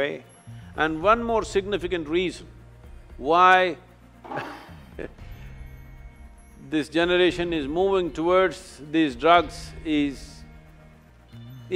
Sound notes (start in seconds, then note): 4.3 chuckles